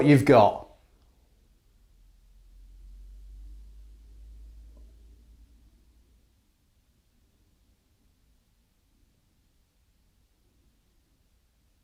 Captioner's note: silence